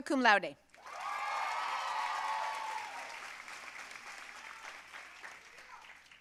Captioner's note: audience cheering and applauding